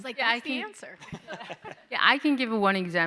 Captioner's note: panelists laughing